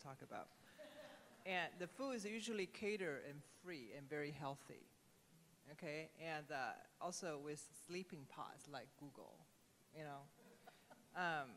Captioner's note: laughter